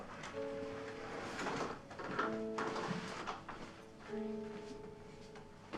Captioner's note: door whooshes; slow melancholic music